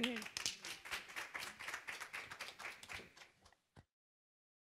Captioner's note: applause